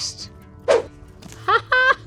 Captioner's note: image whooshing